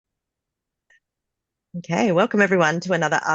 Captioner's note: Australian accent